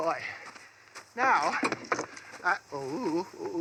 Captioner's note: sighs and yells with efforts; sighs